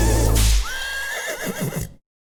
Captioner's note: horse whinnies